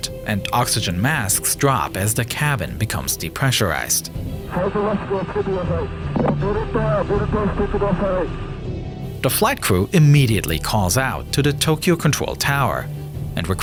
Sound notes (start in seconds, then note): 4.8 flight crew speaking in Japanese